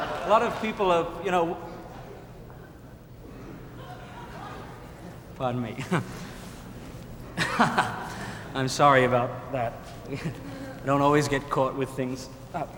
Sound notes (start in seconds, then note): 7.4 laughing